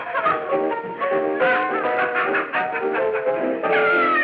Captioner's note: laughing; merry piano music; laughing